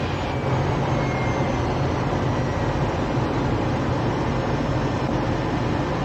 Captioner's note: engine continuing to slow down